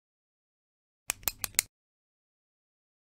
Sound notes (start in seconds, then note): 1.1 sound of pen click